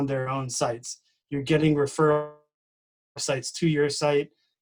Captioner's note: distorted speaking